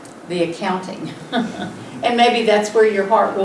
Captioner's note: light laughter